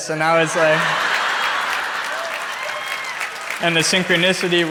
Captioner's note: crowd laughs